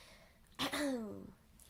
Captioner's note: clears throat